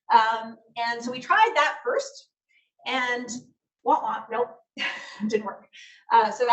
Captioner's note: laughs